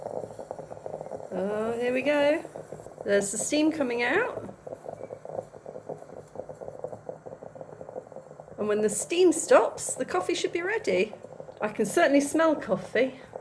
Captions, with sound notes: Oh, here we go. There's the steam coming out. [bubbling sound] And when the steam stops, the coffee should be ready. I can certainly smell coffee.